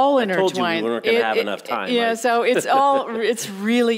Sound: laughing

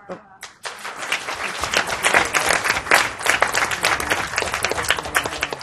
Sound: applause

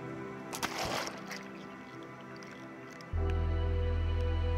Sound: water splashes

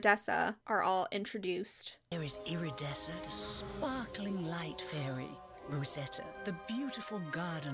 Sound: voiceover

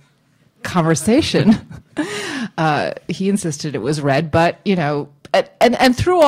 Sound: laughs

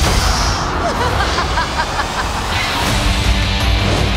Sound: maniacal laughter

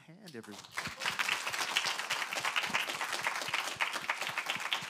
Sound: audience applauding

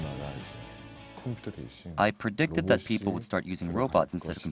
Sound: Korean

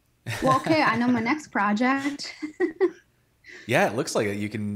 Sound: laughing; laughs

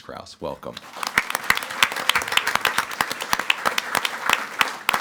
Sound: audience clapping

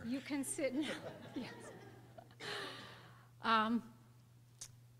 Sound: laughter

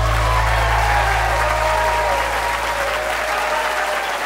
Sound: cheers and applause

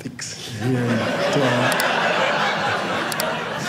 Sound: audience laughing

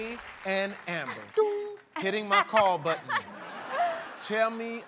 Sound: doong

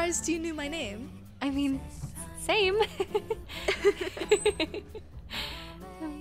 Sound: giggles

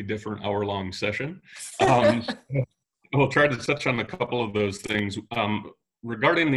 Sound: laughing

